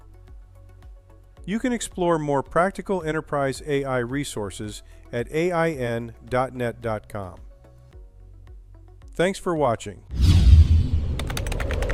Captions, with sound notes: You can explore more practical enterprise AI resources at ain.net.com. Thanks for watching. [air whooshing]